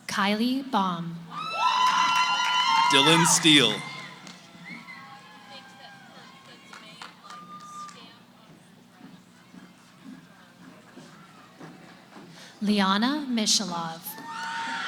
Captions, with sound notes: Kiley Baum. >> Dylan Steele. [ Cheering ] >> Leahana Mishelof.